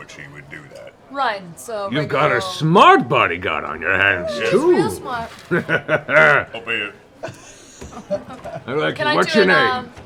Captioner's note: laughs